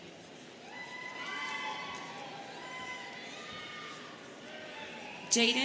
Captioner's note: students cheering